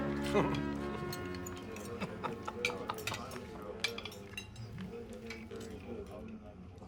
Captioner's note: people chatter and laugh indistinctly